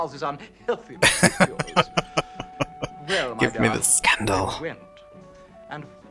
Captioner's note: laughing